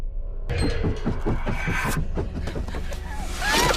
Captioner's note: monster growling; footsteps thudding rapidly; Heather shrieking